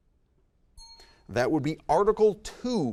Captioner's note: bell rings